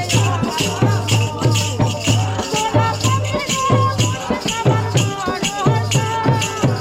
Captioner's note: chanting